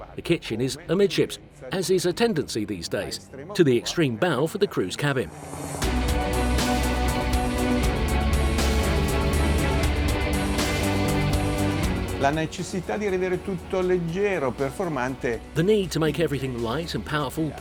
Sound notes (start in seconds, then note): 6.2 dramatic music; 12.8 speaking in foreign language